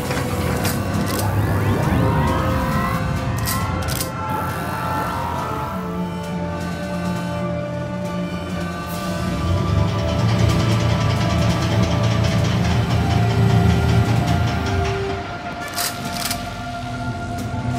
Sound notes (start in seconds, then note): 0.6 revolvers powering up; 9.3 carbine deploying